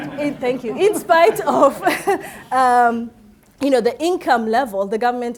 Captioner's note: laughing